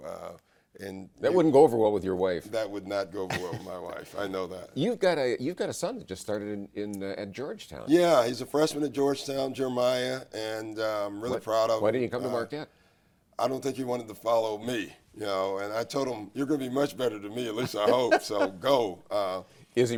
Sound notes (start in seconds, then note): 3.2 laughs; 17.5 laughs